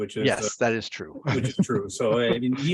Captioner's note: laughs